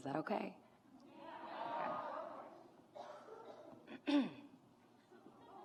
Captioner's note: graduates chattering; graduate clears throat